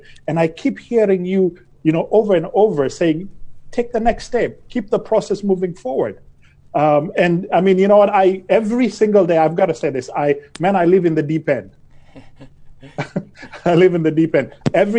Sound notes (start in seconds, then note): 12.8 both chuckling